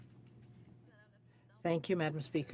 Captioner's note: speaking French